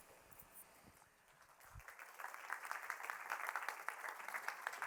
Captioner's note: applause